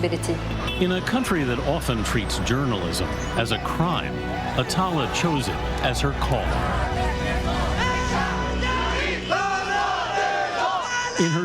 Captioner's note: crowd yelling and chanting